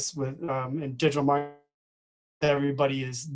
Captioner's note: distorted speaking